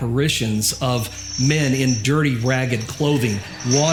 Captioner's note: chains rattling